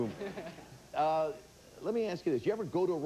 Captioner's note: audience laughing